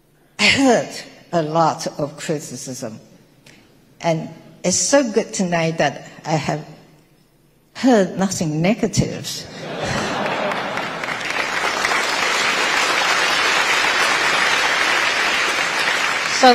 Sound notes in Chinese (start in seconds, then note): 9.5 台下大笑鼓掌